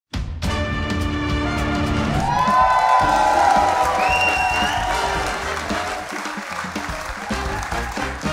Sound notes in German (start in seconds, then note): 0.3 Dynamische Musik; 1.5 Jubel, Applaus